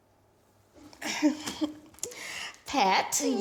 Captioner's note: chuckling